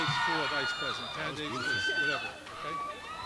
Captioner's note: crowd cheering